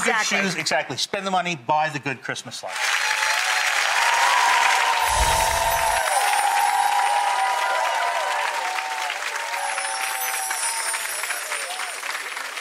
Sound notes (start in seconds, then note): 3.2 audience cheers; 5.0 magical chimes